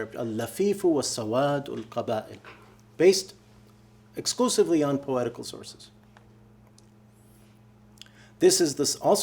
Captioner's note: speaking arabic